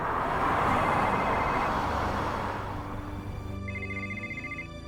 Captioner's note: cell phone ringing; gentle music